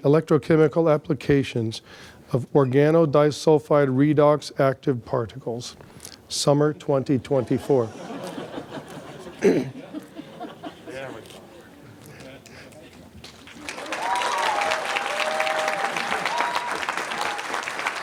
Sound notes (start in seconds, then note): 7.4 laughter; 13.4 applause, cheering